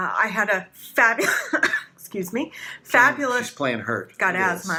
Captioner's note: coughs